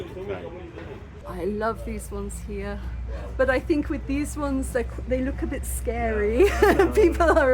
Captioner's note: laughing